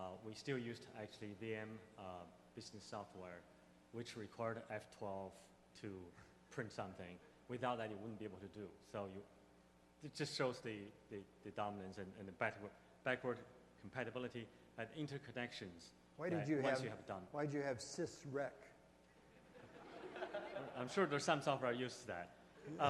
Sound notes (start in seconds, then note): 17.0 voiceover; 19.9 voiceover; 22.6 laughs